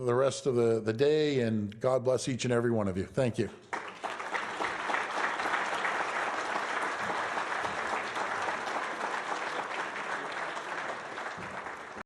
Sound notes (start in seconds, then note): 7.6 applause